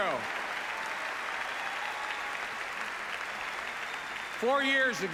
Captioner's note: applause